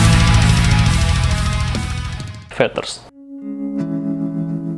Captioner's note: Russian accent intensifies